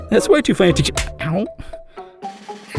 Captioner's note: arm slap